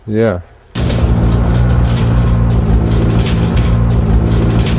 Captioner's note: engine revving